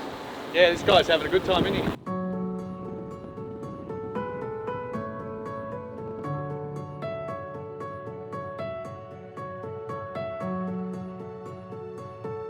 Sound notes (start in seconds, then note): 3.0 piano music; 6.3 wind blowing